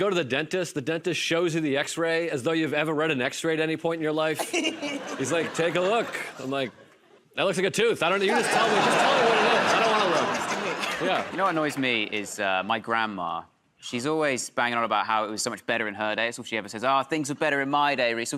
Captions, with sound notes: Is when you go to the dentist, the dentist shows you the X-ray as though you've ever read an X-ray at any point in your life. [ Laughter ] He's like, "Take a look." I'm like, "That looks like a tooth." I don't know. You just tell me." [ Laughter ] "Just tell me what it is. I don't want to look." -You know what annoys me? Is my grandma. She's always banging on about how it was so much better in her day. It's all she ever says -- "Oh, things were better in my day."